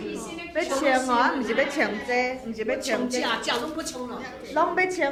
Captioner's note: speaking foreign language